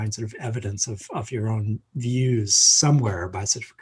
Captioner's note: laughs